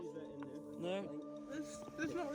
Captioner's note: medics and bystanders voices